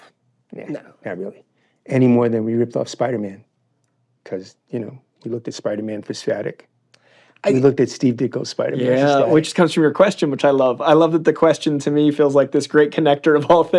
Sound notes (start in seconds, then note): none